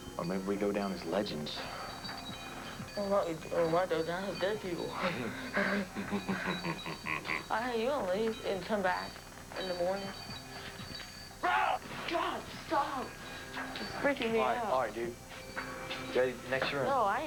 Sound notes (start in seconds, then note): 5.0 chuckles evilly